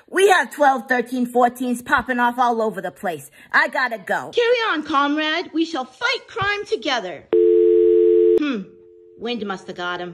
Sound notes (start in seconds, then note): 7.3 dial tone hums